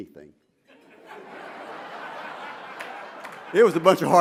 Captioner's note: laughter